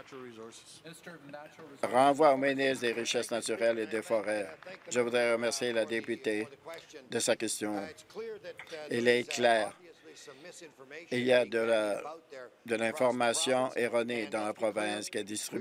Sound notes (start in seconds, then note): 7.5 applause